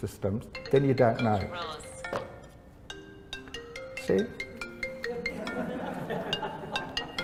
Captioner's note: phone ringing